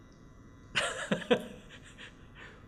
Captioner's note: laughs